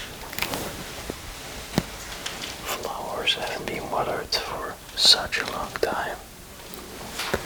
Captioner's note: creaking dry leaves